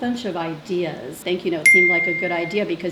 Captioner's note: bell rings